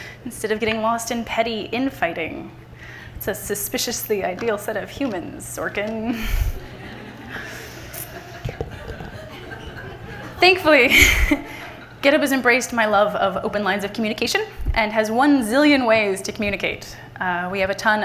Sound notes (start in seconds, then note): 6.2 everyone laughing